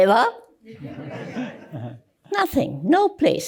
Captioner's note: laughter